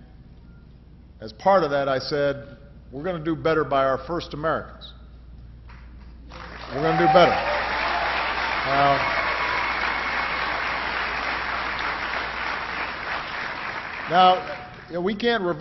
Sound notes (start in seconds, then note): 14.5 applause